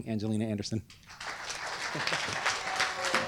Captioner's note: applause